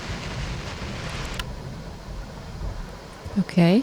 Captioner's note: thunderstorm continues